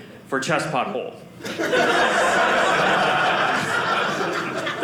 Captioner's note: audience laughing